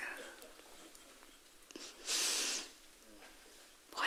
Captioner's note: woman in white sniffles